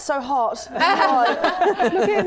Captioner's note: laughing